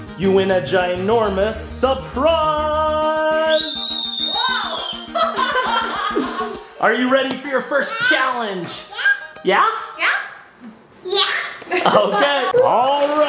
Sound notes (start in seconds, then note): 3.4 happy screaming; 4.4 laughing; 11.7 laughing